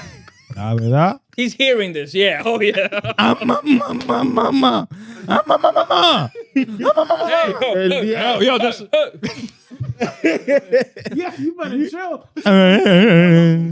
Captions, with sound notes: He's hearing this, yeah, oh yeah. (Speaking In Foreign Language) (Laughing)